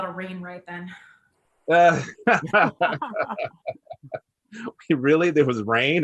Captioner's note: panelists laughs